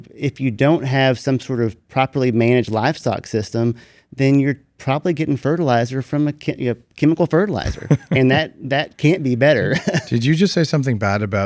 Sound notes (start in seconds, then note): 7.6 laughs